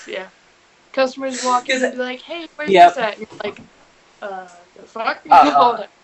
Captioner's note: laughs